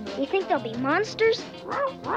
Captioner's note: Arrow barking